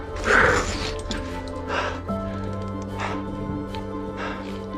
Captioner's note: heavy breathing